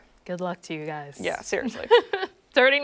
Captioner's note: laughter